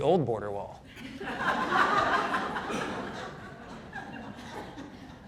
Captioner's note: audience laughing